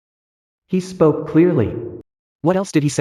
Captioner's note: he spoke clearly